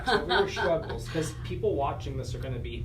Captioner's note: laughter